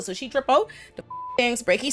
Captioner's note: beep